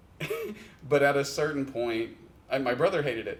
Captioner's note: chuckles